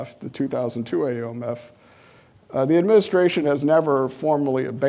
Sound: none

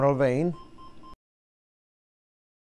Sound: machine beeping

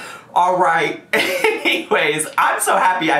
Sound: laughing

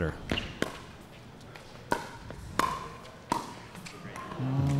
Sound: ball bouncing

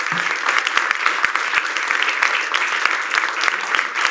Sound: applause

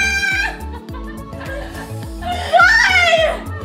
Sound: screams

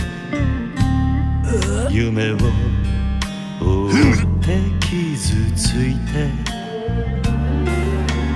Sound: groaning and stabby gurgles and coughing

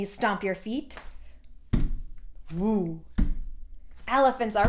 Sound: feet stomping

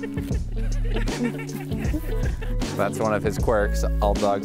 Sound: amused laughter

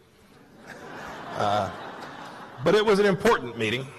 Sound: laughter

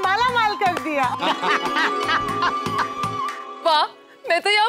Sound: laughing

